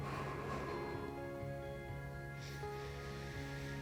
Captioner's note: calm music; exhaling